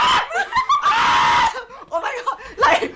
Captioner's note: hysterically screams